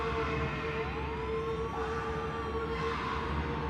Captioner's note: people screaming